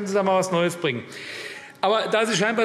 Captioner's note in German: Zurufe DIE LINKE